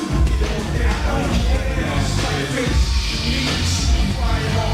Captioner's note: crowd cheering